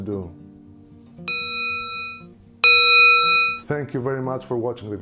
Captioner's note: bell ringing